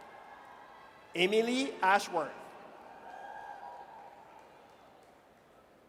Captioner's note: audience cheers